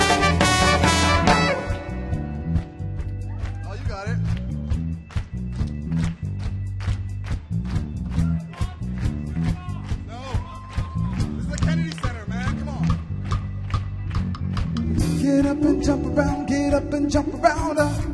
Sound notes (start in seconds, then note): 5.2 rhythmic clapping; 10.2 audience yelling